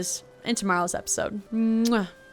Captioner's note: kiss